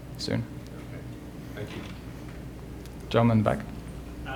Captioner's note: voiceover